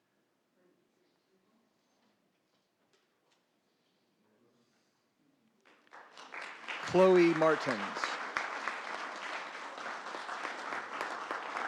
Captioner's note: applause